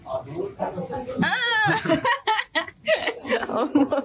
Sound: laugh

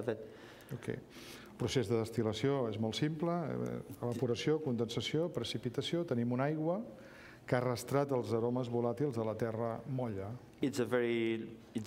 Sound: speaking catalan

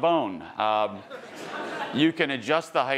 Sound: attendees laughing

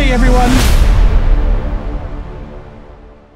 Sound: explosion

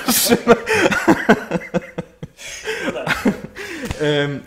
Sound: laughter

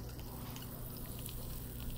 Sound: cork squeaks

